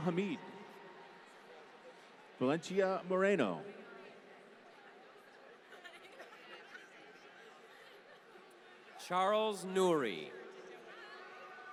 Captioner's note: applause; laughter